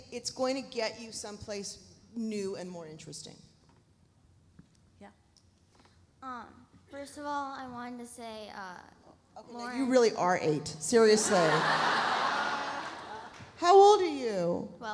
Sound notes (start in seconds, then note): 11.1 audience laughs